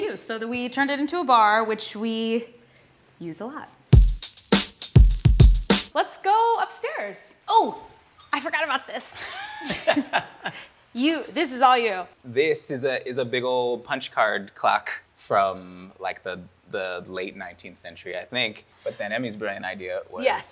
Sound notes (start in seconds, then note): 3.9 upbeat music; 9.2 laughter